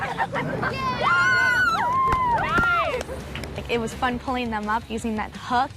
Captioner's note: all cheer